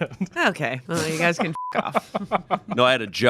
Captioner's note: beep